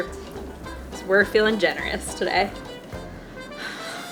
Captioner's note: sighs